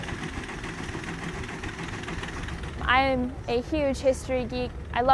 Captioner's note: rumbling of the steam engine